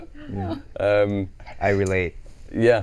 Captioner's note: laughing